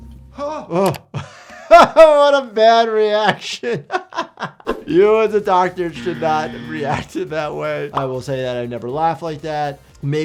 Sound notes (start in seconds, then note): 1.3 laughs; 4.1 laughs; 7.3 buzzer blaring